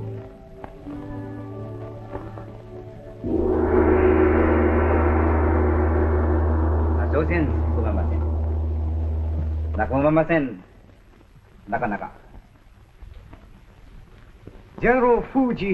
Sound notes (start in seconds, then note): 3.2 gong; 6.7 speaking japanese